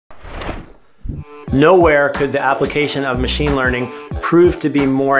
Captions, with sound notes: [sound effect] Nowhere could the application of machine learning prove more